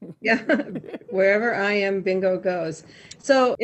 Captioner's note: laughs